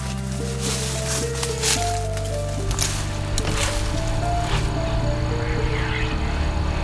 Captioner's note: music, sound of walking in leaves